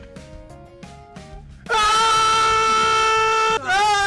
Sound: screaming

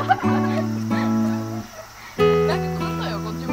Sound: laughter

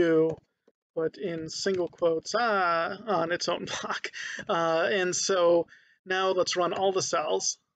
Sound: laughing

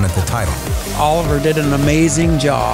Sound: crowd cheering

